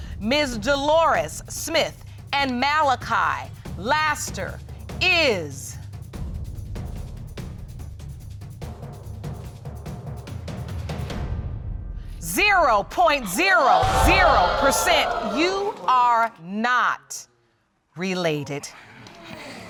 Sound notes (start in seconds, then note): 13.2 audience exclaiming